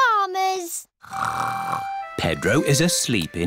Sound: snores

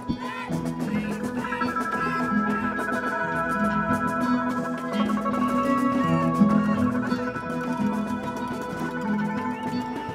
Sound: crowd chanting

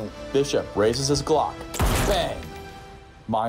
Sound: gun fires

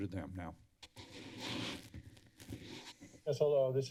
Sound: rustling sound

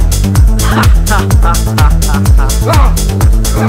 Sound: evil laugh

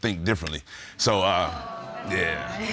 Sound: audience exclaims

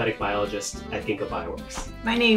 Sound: air whooshing

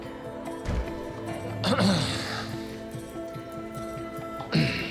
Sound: clears throat

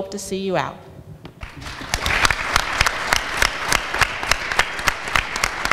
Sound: audience applauds

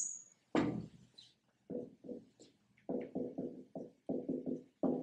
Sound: marker makes noise on whiteboard

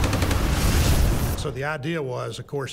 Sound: cannon shots exploding; rapid gunfire exploding; flamethrower roaring

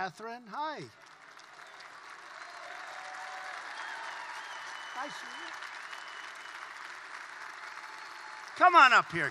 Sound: applause

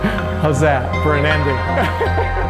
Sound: laughs; bright music

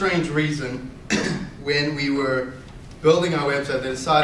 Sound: coughs

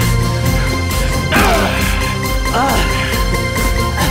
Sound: punch noise

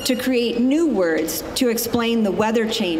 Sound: none

